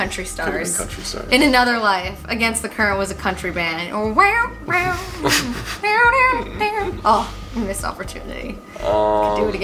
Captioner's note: hums